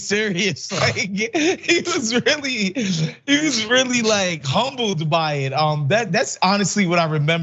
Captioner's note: laugh